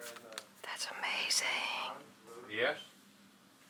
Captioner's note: whispering